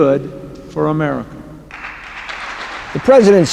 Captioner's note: applause